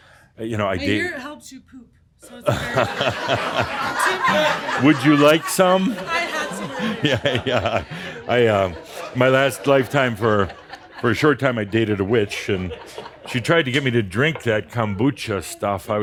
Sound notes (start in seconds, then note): 6.2 laughter; 9.3 chuckling